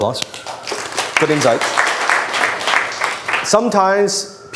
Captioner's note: audiences applause